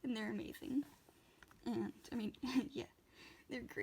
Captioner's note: laughs